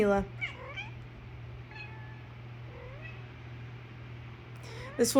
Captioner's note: Mila meowing